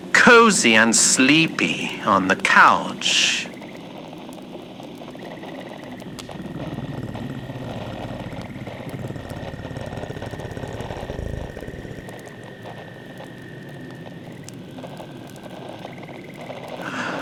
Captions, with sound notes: cozy and sleepy on the couch. (more purrs)